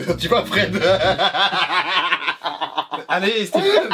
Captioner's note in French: fou rire